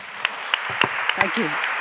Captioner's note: applause